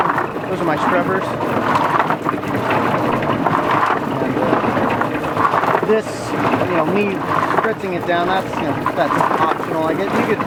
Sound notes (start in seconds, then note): 2.1 root washer continues